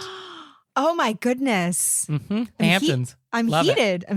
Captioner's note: gasping